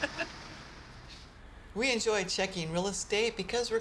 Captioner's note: laughs